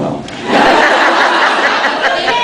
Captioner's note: laughs